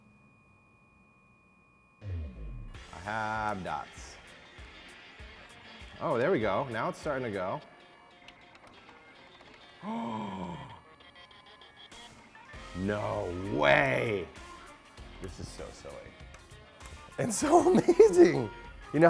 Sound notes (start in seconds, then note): 9.8 gasps; 17.2 laughs